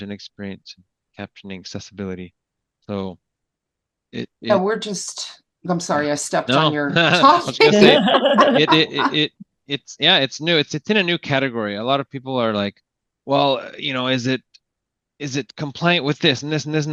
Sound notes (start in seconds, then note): 6.4 laughing; 9.0 chuckling